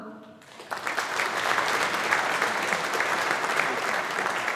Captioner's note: audience applauding